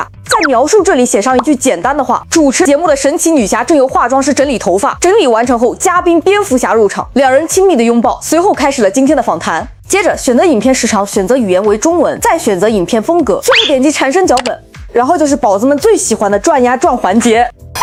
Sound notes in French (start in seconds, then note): 11.7 chinois